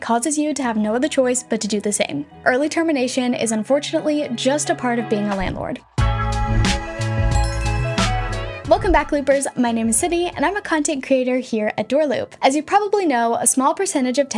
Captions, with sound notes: causes you to have no other choice but to do the same. Early termination is unfortunately just a part of being a landlord. (gentle upbeat music) (bells chiming) Welcome back, Loopers. My name is Sydney and I'm a content creator here at DoorLoop. As you probably know, a small percentage of tenants